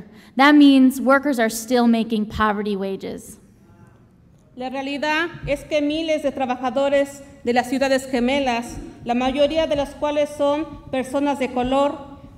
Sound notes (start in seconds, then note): 4.6 speaks Spanish